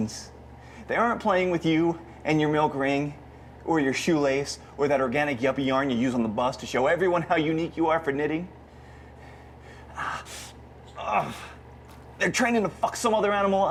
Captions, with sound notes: They aren't playing with you and your milkring, or your shoelace, or that organic yuppie yarn you use on the bus to show everyone how unique you are for knitting. (straining) They're training to fuck some other animal up.